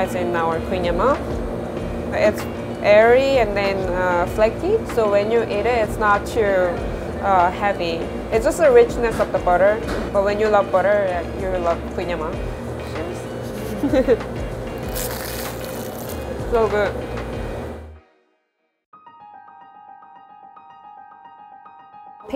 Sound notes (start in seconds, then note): 13.4 giggles; 14.7 kouign amann crunching; 19.0 gentle piano music